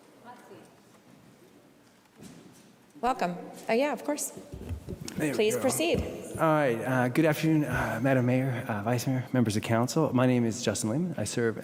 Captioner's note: off microphone comments